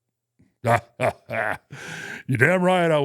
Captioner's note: Undertaker imitates Vince's laugh